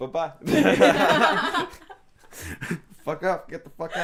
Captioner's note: laughing